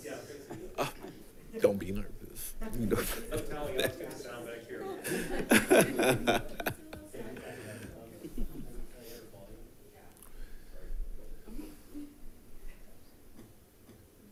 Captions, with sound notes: Don't be nervous. (chuckles) - Back here, here.